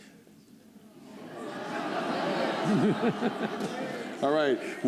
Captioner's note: laughter